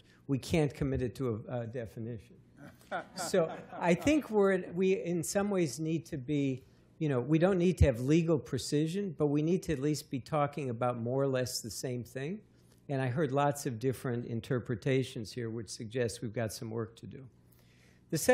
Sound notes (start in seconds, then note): 2.6 laughter